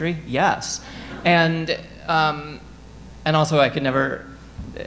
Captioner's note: audience laughing